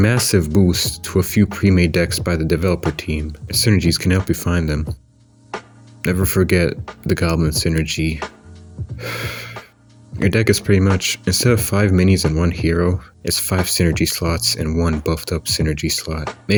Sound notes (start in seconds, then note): 9.0 sigh